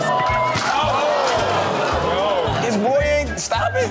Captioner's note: audience groans